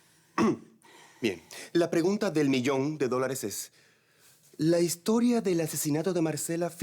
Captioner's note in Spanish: Carraspea